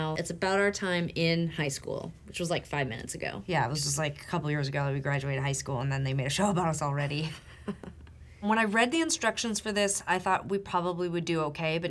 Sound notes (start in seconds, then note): 7.2 chuckling